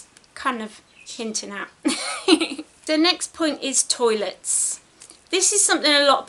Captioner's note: giggles